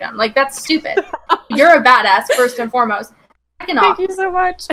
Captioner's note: laughs